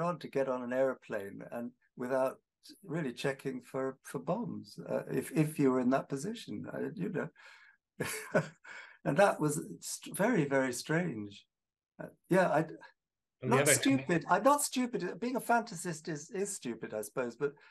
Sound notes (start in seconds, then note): 8.0 chuckling